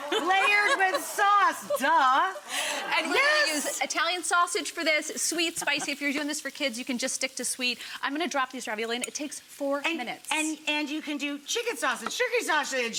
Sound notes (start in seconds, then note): 0.0 chuckling; 2.4 audience gasping